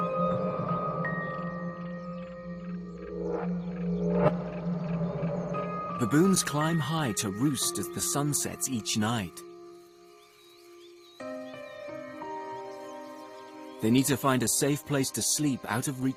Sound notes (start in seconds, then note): 5.2 birds chirping; 5.2 moves into gentle music